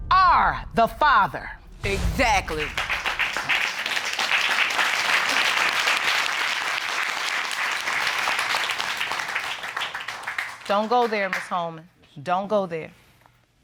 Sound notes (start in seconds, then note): 3.7 audience applauding